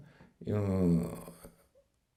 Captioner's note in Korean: 앓는 소리